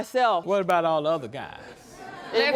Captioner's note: audience laughing